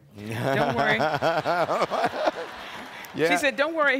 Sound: laughing

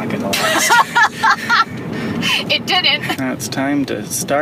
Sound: laughs heartily

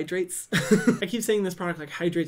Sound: laughs

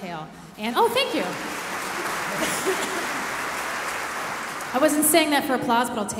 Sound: audience applauding

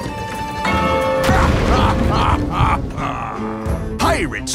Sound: evil laugh

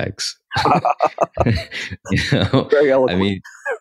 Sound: both laugh

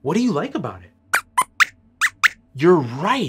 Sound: squeaks squeaks

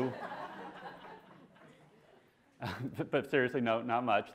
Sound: classroom laughing

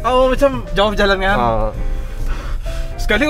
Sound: catching breath

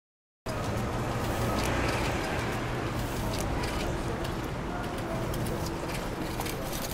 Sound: cars whooshing; cars honking

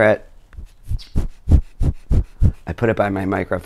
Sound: puff noises

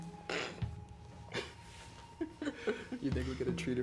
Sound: laughing

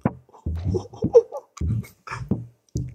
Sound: laughing

